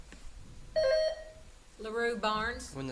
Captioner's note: buzzer beeps